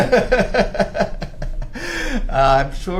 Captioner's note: laughter